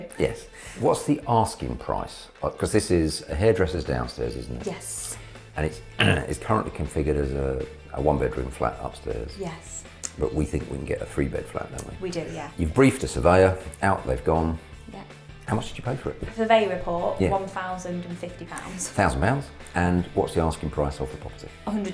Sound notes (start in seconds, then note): 5.9 grunts